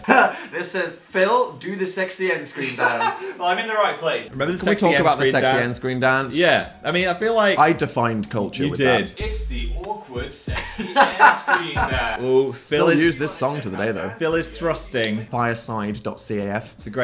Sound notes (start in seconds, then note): 0.1 laughs; 10.4 laughs